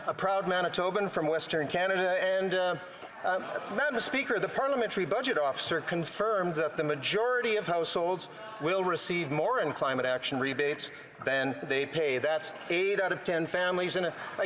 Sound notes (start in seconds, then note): 2.9 some Applause